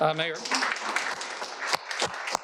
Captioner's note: audience applauding; applauding